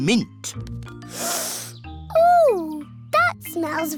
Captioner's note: sniffs